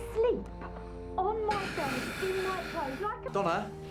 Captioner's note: emotional exhale